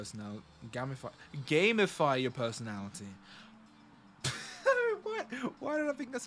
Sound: laughs

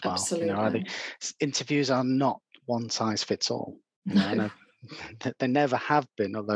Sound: laughs

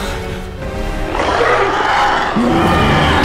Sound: Kong Roar; Skull-Crawler roar

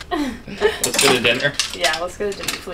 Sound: laughs

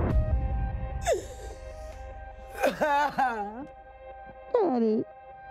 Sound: sobbing

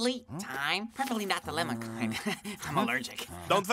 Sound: chuckles

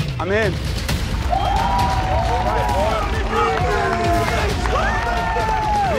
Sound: cheering and applauding

